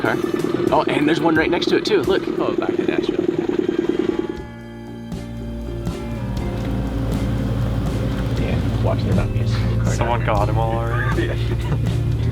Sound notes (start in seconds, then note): 5.2 boat motor running; 9.0 indistinct chatting